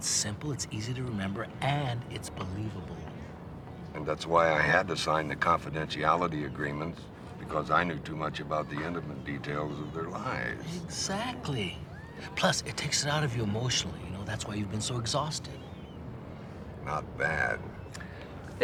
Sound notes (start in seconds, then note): none